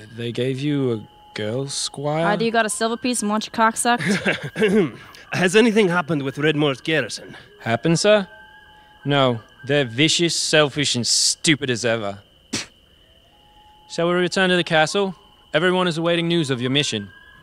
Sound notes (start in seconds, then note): 4.1 clears throat; 12.5 spits